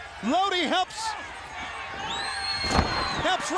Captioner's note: crowd chatter